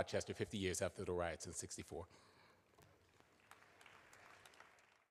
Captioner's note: applause